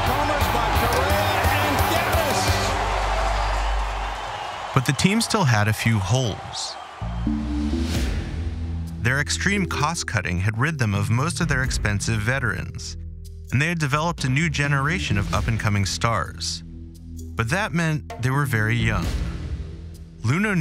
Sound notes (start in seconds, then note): 2.6 cheers and applause